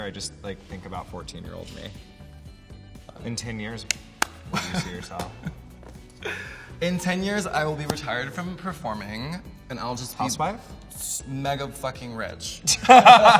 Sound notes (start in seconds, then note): 5.4 laughs; 12.8 laughs loudly